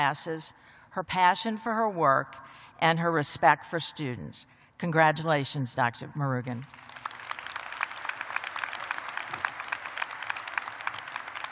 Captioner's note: applause